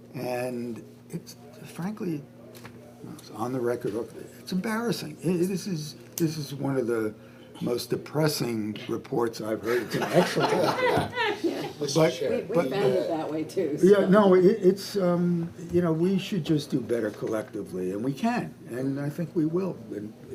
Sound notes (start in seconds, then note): 9.7 all laugh